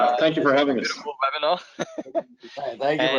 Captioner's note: laughs